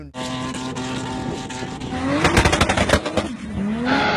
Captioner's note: engine whirring